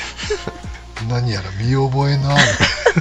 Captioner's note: laughs